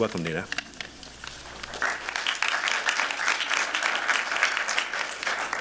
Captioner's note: applause